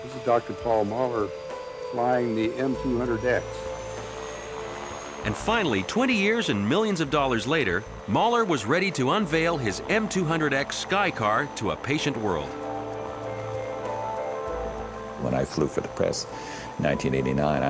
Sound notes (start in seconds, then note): 12.9 aircraft whirring; 12.9 upbeat music